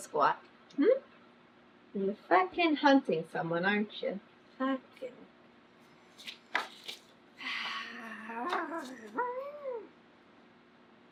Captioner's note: sighs